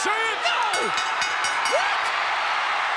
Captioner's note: bell rings